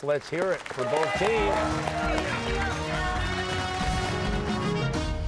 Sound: cheers and applause

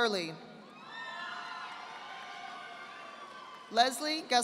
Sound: audience applauding

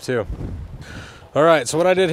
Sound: wind whooshing

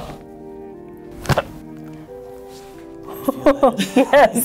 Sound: bones cracking

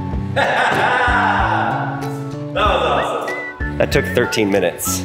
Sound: laughs

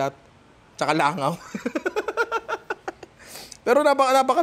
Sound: laughs

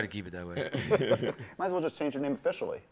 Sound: laughs

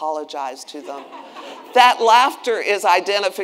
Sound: attendees laughing

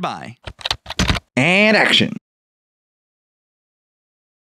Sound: typing

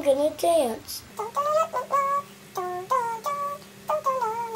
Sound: child humming

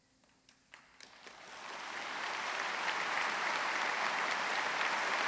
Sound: audience applauds

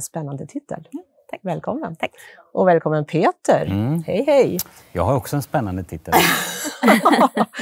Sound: Skratt

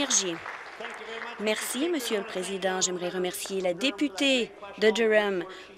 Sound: applause

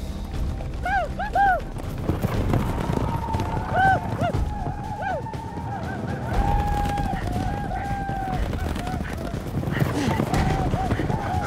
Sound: whooping sounds

